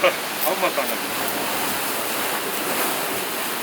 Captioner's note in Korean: 바삭